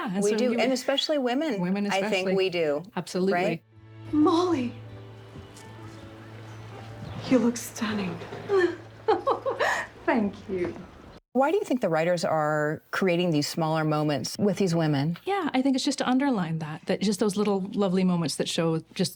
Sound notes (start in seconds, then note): 3.1 soft cheerful music; 8.3 chuckles